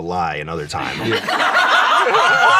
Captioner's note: everyone laughs